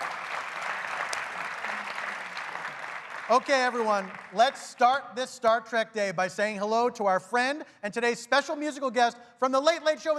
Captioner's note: applause